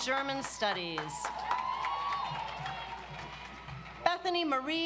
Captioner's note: audience applauds